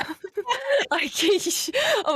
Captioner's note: laugh